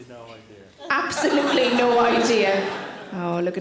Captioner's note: audience laughing